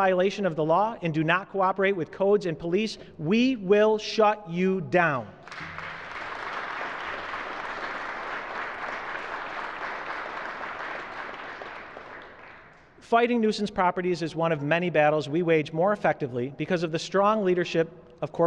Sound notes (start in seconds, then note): 5.4 applause